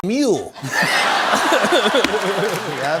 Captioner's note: laughter